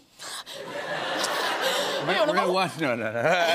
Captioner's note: laughter